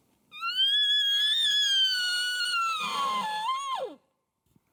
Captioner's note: hunter Bull Call